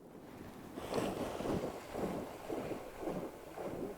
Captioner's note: water splashes